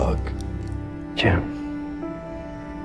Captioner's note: voiceover